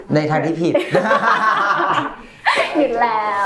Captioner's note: laughs